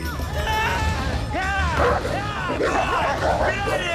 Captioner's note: shouting